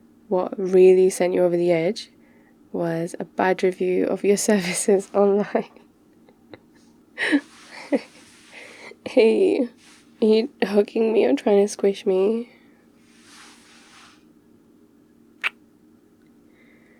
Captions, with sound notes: what really sent you over the edge... was a bad review of your services *squish* online... *laughs* hey, are you hugging me or trying to squish me? *kiss*